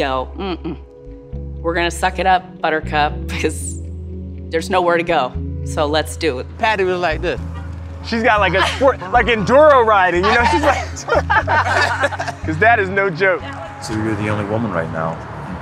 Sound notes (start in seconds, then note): 11.3 laughing